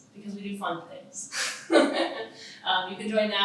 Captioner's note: laughs